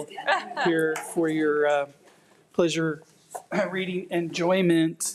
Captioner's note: attendees chuckling